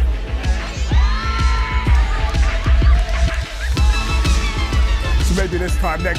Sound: cheering

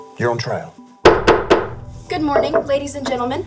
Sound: wood clunking

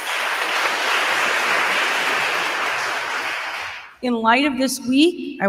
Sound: attendees applauding

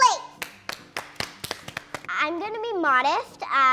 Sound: applause

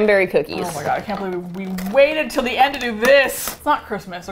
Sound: with disappointment

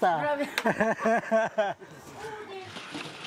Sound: laughs

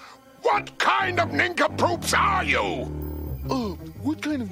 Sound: screaming; whispering

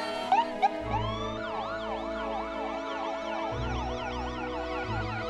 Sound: siren wailing

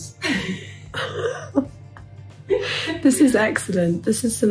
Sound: both laugh

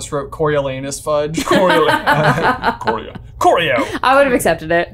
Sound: laughing

